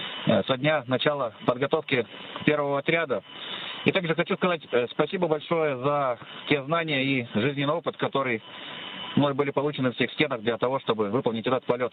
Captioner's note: russian